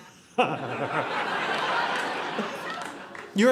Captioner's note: audience laughing